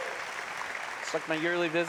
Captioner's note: cheers and applause